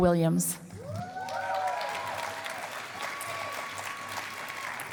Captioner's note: cheering and applause